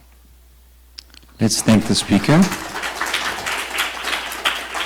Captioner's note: applause